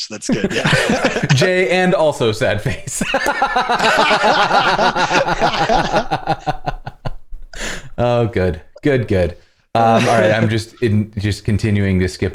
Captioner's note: laughter